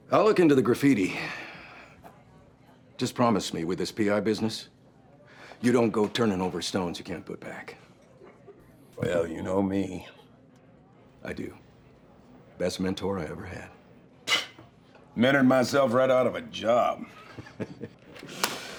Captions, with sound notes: I'LL LOOK INTO THE GRAFFITI. JUST PROMISE ME WITH THIS P.I. BUSINESS, YOU DON'T GO TURNING OVER STONES YOU CAN'T PUT BACK. WELL, YOU KNOW ME. I DO. BEST MENTOR I EVER HAD. [SCOFFS] I MENTORED MYSELF RIGHT OUT OF A JOB. [CHUCKLES]